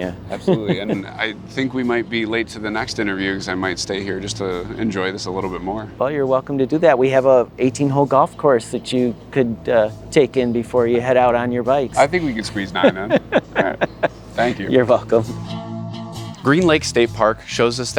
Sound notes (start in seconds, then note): 12.1 laughs; 16.3 bright music